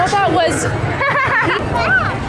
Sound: laughing

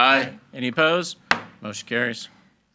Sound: gavel thuds

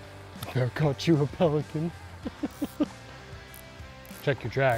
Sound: chuckling

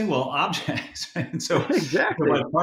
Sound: laughing

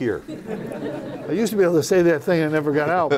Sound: laughter

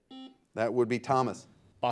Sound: buzzer buzzes

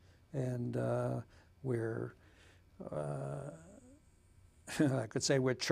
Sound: chuckles

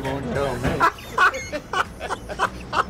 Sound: laughs

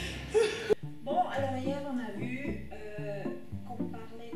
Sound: speaking French

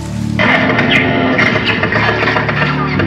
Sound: gunfire

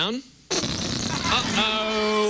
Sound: farting noise

